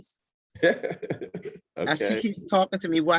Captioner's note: laughing